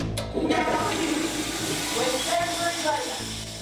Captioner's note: toilet flushes